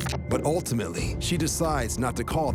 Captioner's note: none